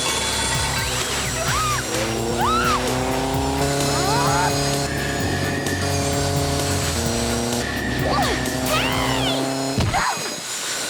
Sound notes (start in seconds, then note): 2.5 squealing